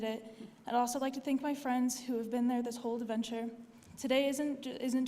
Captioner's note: none